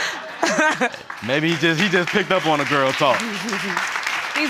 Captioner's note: laughter; applause